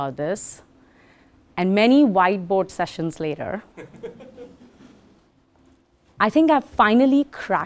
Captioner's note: laugh